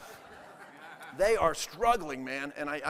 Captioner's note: audience laughing